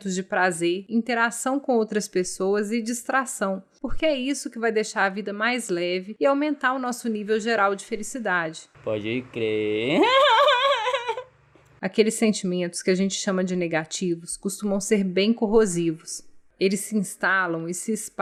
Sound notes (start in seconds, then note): 9.4 laughs